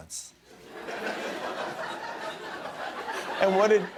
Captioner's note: laughter